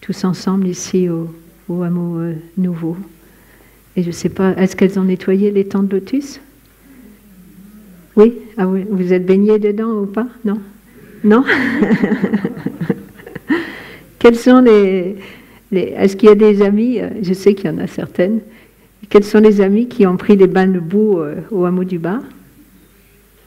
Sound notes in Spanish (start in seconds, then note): 11.4 Risas